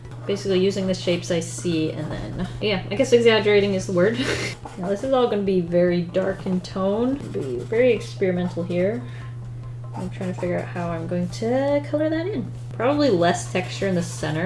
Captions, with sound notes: Basically using the shapes I see and then, yeah, I guess exaggerating is the word. [Laughs] Now this is all going to be very dark in tone. Very experimental here. I'm trying to figure out how i'm going to color that in. Probably less texture in the center.